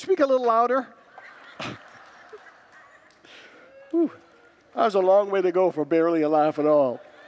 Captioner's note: congregants laugh; congregants laugh